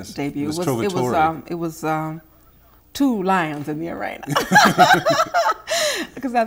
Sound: laughing

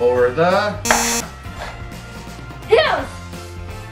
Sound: buzzer shrilling

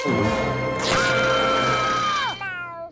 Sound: screaming; meowing

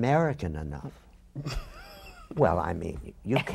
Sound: laughter

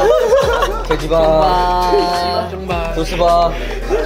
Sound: laughing

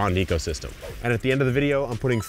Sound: air whooshes

